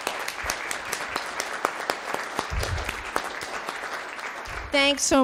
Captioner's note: audience applauding